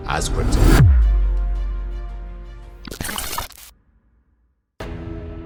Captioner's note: electric glitch continues